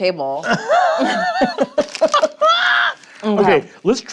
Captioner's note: laughs